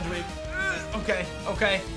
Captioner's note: grunts